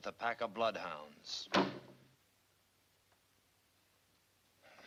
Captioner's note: hand thuds